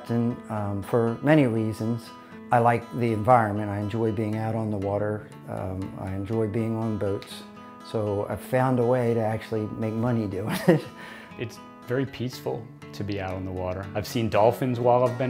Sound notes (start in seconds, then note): 10.4 laughs